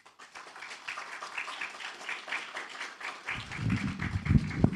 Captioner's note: audience clapping